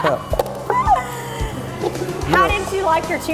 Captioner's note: laughter